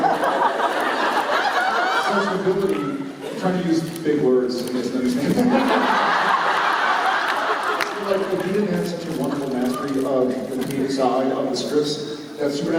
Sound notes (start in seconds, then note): 0.0 laughter continues; 5.1 laughter